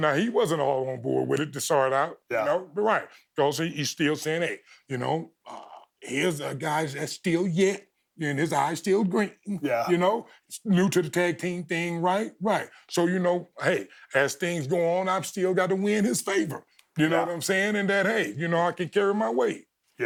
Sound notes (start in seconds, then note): none